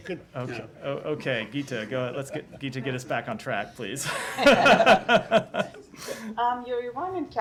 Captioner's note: laughter